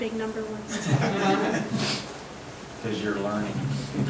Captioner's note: audience laughing